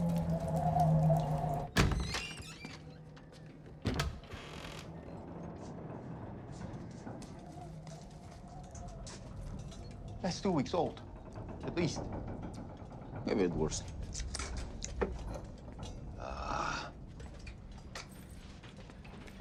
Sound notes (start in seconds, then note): 0.0 liquid dripping; 0.0 wind whistling; 1.9 door creaking; 1.9 wind whistling